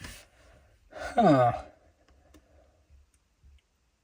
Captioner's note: villager noise